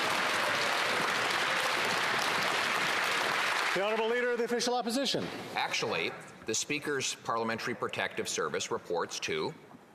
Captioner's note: some Applause